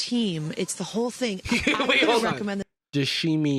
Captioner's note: laughs